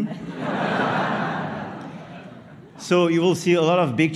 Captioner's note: laughter